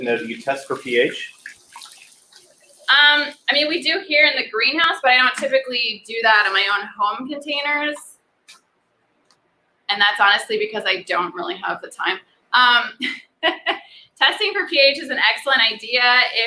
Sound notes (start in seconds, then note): 13.3 laughs